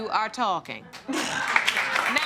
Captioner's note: audience applauding